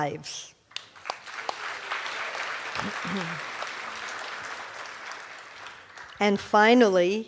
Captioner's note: cheers and applause